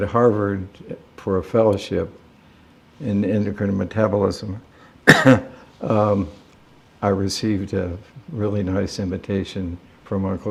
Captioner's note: coughs